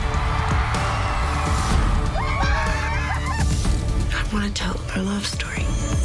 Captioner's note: cheers and screams